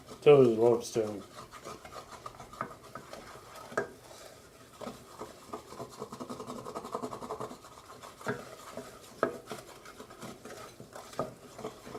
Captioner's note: stirring